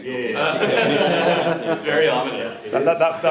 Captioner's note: laughs